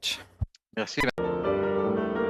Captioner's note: speaking French